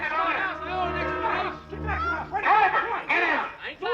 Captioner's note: clamoring